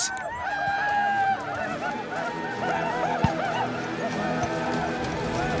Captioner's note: whooping